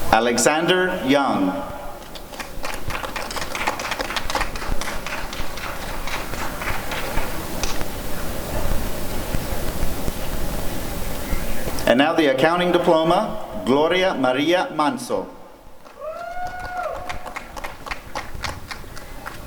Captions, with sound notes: Alexander Young [applause and cheering] And now the Accounting Diploma— Gloria Maria Manzo [applause and cheering]